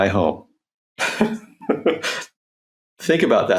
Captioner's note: laughs